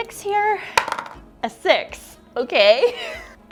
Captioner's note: dice clunking; laughs